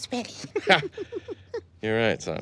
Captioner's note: giggles